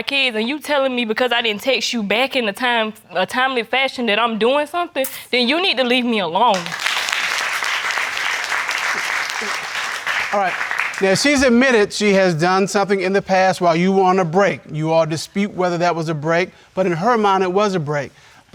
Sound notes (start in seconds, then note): 6.5 audience applauding